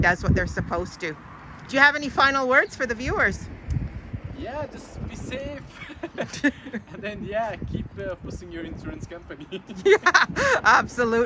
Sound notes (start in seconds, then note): 5.6 laughs; 9.3 both laughing